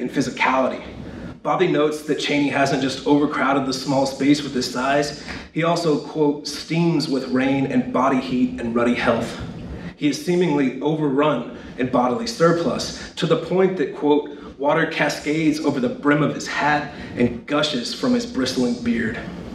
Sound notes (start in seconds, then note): 5.0 steams